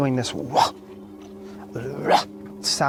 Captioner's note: gruffing